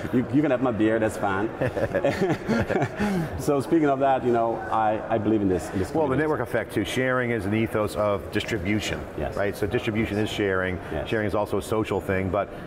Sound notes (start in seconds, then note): 1.5 both laugh